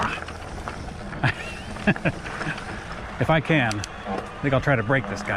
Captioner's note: chuckles